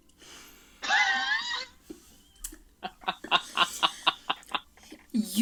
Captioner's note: laughs